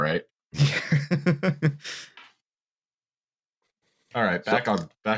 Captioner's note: laughs